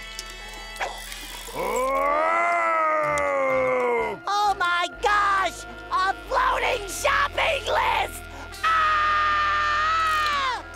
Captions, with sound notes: [moaning] Oh my gosh, a floating shopping list! [screaming]